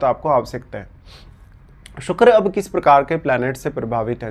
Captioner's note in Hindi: नाक से की जाने वाली आवाज़